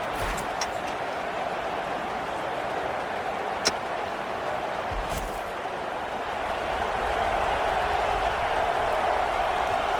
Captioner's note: crowd cheering